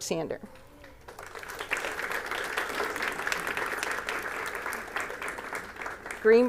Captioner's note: applause